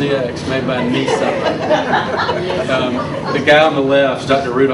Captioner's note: audience laughs